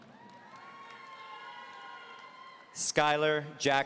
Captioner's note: audience cheering